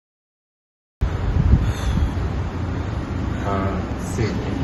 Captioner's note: heavy breathing